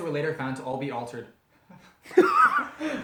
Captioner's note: gasp